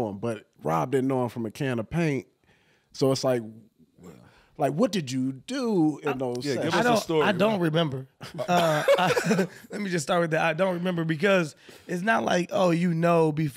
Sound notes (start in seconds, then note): 8.2 laughing